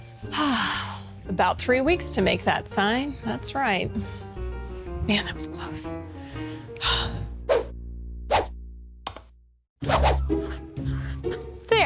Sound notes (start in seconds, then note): 0.3 sighs; 6.7 sighs; 7.5 logo whooshing; 9.9 suspenseful music